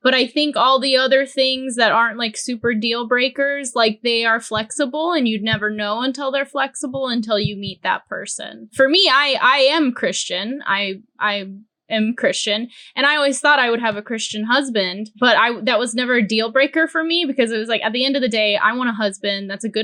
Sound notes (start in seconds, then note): none